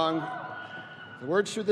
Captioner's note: students cheering